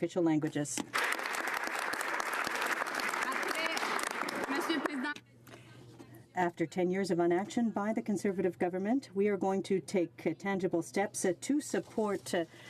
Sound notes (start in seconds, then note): 4.6 some Applause